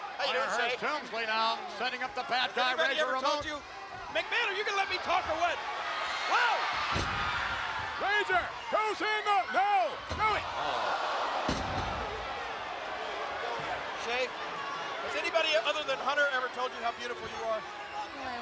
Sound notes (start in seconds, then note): 11.2 spectators exclaiming; 18.2 mumbling